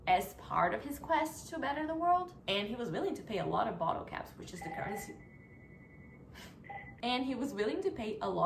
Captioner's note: phone ringing